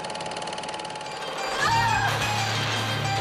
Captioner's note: screams